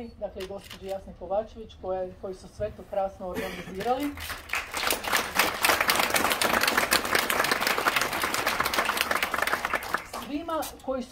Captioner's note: applause…